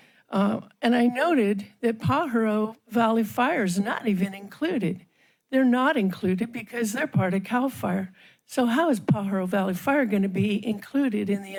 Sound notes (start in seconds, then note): none